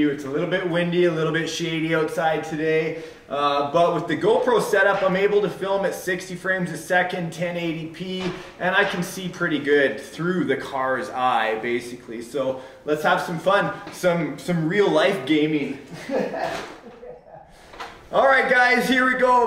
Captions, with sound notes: It's a little bit windy, a little bit shady outside today. But with the GoPro set up, I'm able to film at 60 fps, 1080P. And I can see pretty good through the car's eye, basically. So let's have some fun! Some real life gaming. (laughter) Alright guys, here we go!